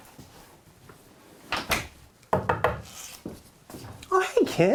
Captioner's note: door Knock